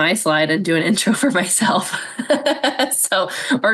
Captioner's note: laughs